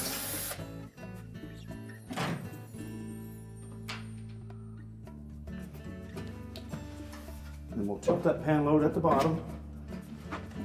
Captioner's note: electric screwdriver